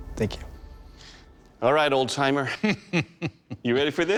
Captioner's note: chuckles